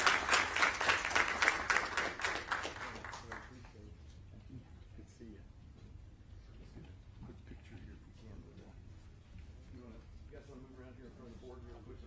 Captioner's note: applause